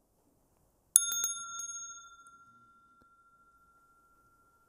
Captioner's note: rings the bell